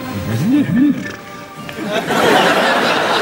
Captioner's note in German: Imitiert Pferd